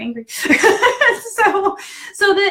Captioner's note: laughing